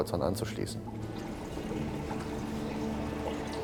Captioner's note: bubbling